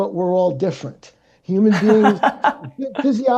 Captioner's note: laughing